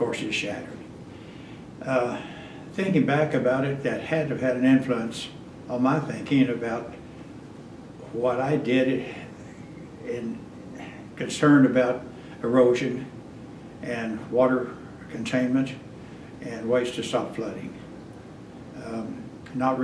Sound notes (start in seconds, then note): none